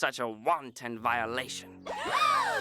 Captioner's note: all gasp